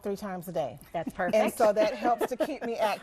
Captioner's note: laughing